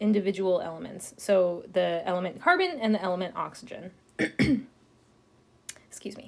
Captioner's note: clears throat